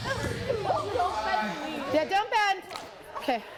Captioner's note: girls exclaiming